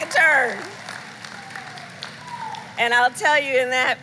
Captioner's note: applause